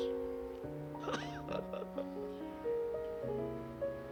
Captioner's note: laughing